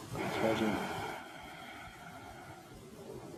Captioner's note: exhales